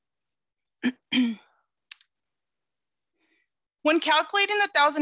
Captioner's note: clears throat